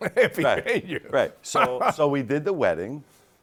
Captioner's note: laughs